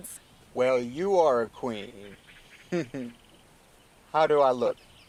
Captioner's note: chuckles